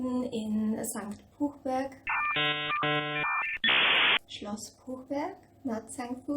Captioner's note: internet dialing up sound effect